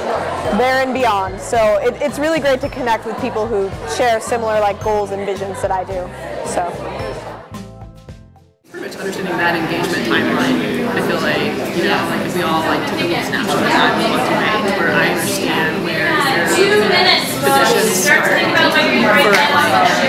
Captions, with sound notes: there and beyond. So it's really great to connect with people who share similar like goals and visions that I do. [talking among themselves]